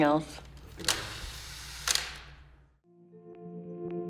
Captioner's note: camera clicks